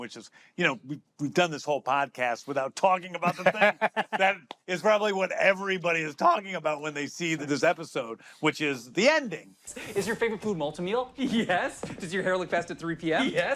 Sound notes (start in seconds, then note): 3.2 laughs